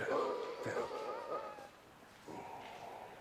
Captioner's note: gasps